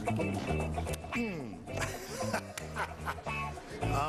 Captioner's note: laughing